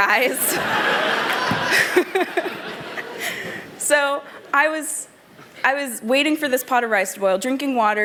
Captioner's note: laughter